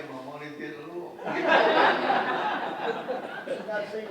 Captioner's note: audience laughs